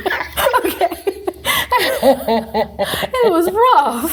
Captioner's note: both laughing